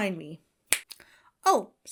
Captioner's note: Bill snaps fingers